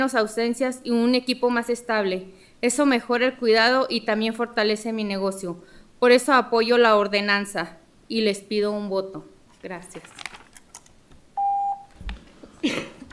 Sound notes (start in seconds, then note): 2.0 speaking in spanish